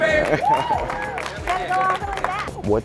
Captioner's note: applause